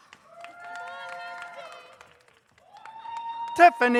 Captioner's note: audience cheers